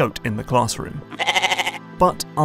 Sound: goat bleat

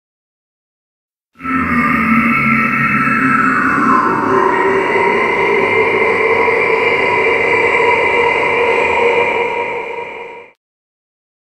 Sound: deep insane laugh

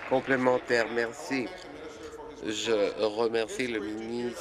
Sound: applause

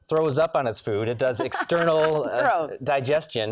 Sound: laughs

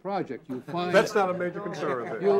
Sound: all laughing

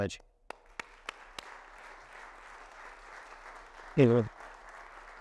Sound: audience applauding

